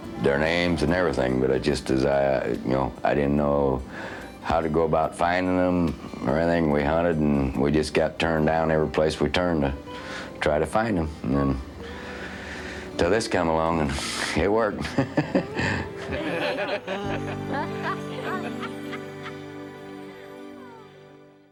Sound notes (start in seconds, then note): 14.8 laughing